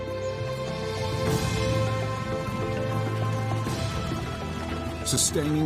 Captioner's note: birds chirping; dramatic music